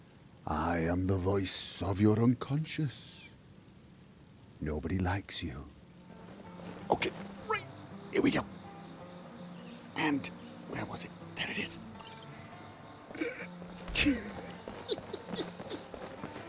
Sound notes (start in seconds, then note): 0.3 hushed; 13.8 stifled giggling